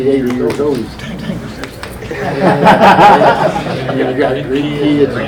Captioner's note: men laughing